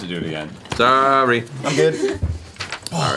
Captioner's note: sing-song